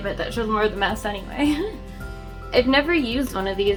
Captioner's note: giggles